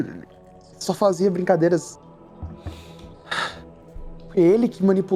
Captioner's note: sigh